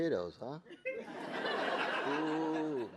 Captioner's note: audience laughing